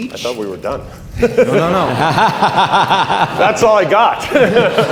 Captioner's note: laughing